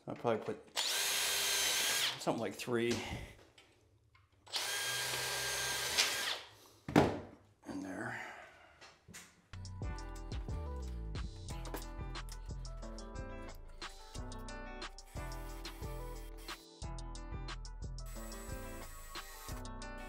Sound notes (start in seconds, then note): 0.7 drill whirs; 4.4 drill whirs; 10.1 calm music